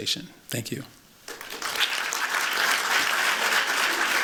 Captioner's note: applause